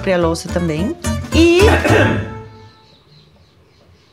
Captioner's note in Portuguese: som de Espirro